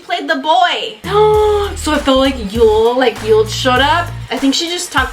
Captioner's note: excited